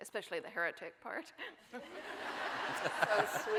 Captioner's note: audience laughing